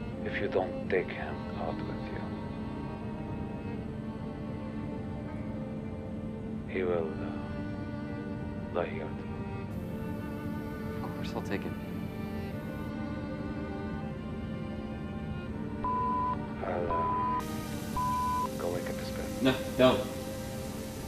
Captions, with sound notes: If you don't take him out of here... He will die here too. - Of course I'll take him. (beeping) I'll go wake up his parents. - No, don't!